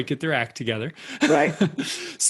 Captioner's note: laughter